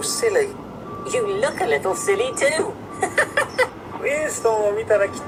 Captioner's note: giggles